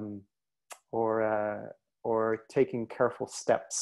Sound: word in French

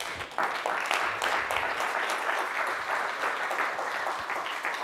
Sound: audience applauds

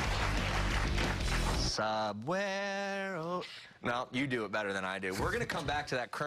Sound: cheers and applause

